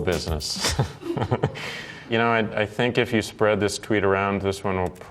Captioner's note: chuckling